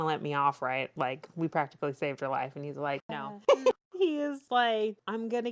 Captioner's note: laughs